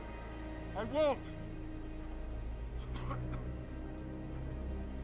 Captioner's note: coughing